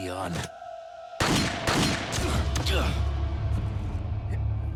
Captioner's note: gun shooting